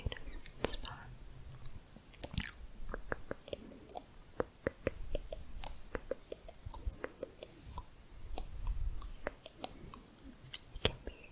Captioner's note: tongue clicking and bubbling